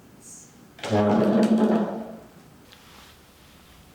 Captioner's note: chair creaking